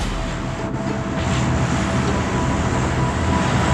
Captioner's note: plane noise